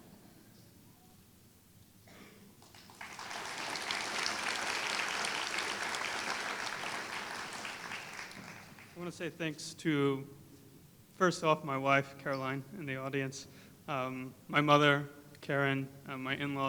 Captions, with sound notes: [Applause] I want to say thanks to, first off, my wife Caroline in the audience, my mother Karen, my